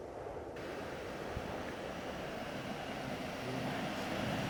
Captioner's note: car engine whirring